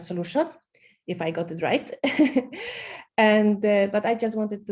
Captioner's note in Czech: smích